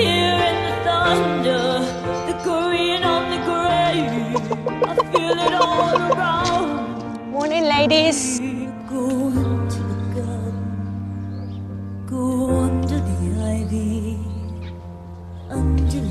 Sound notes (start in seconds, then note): 4.2 chickens clucking; 7.3 singing